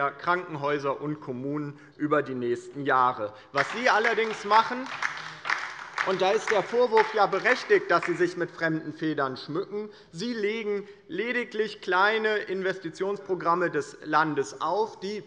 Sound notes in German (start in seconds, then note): 1.9 Beifall bei der LINKEN